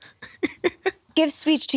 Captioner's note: laughs